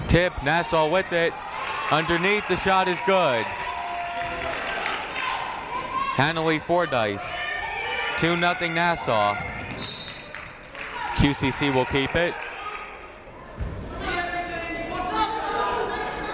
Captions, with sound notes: Tipp, Nassau whip it. Underneath, the shot is good. Hanaley Fordyce. Two, nothing Nassau. (whistle blows) QCC will keep it.